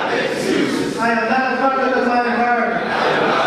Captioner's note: audience speaking